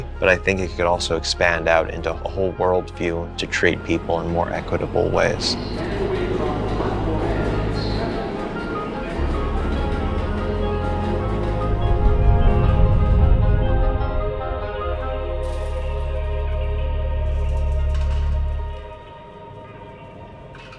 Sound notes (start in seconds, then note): 6.1 gentle orchestral music; 6.1 subway announcer speaks; 10.7 train clacks